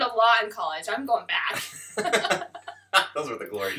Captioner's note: laughter